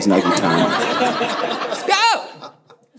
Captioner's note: audience laughing